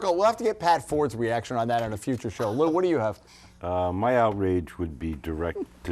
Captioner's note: laughter